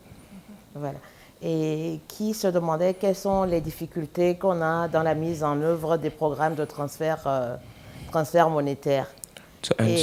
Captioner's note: speaking french